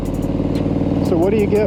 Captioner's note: engine roaring